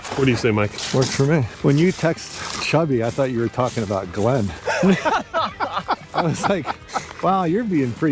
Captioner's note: laughter